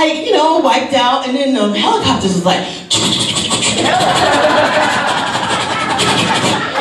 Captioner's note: engine sounds